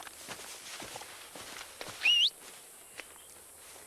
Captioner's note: whistling